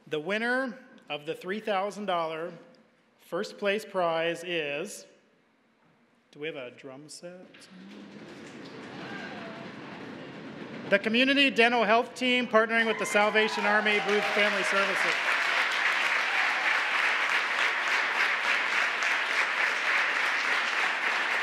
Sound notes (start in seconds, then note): 7.8 hands pounding a drum roll on tables; 15.8 applause